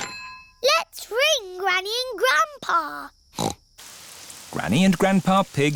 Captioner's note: snorts